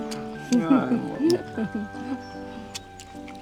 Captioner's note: both laughing